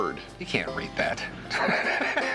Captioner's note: laughs